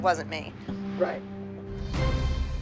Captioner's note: none